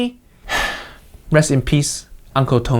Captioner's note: Uncle Roger sighs